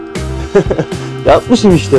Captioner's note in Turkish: Gülüşme